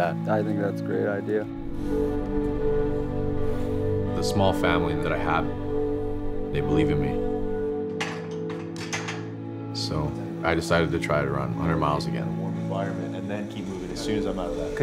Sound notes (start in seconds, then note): 7.9 metal clanking